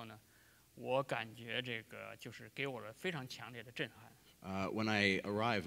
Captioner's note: speaking in Chinese